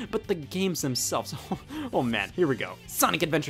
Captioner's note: chuckles